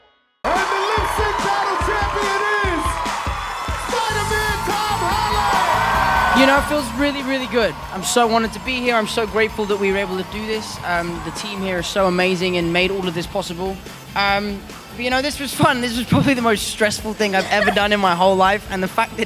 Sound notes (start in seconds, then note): 5.8 audience cheers